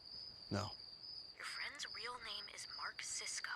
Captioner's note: on phone